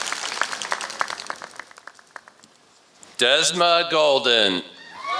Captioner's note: applause